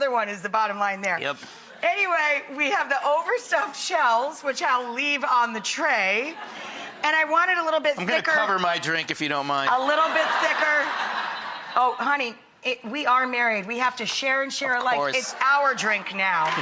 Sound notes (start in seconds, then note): 9.8 audience laughs